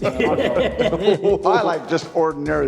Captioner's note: laughing